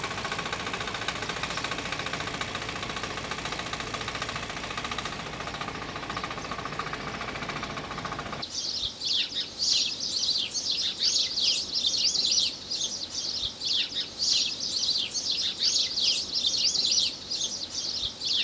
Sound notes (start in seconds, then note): 8.5 birds chirping